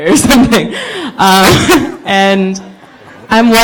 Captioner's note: laughing